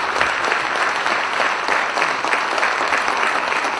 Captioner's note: applause